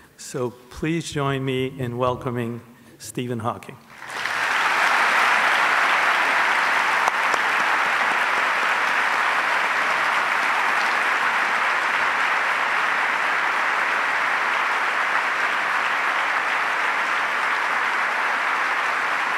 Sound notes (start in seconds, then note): 4.1 audience applauds